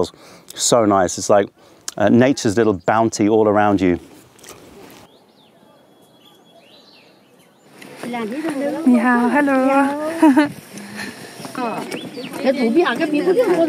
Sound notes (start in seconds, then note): 4.4 tea farm ambiance; 7.4 mandarin chinese